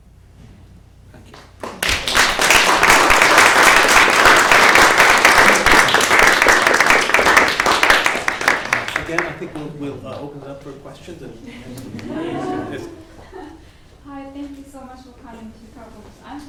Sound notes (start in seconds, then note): 2.4 applause